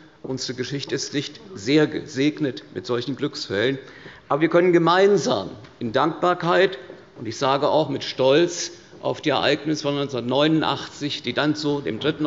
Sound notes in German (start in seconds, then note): none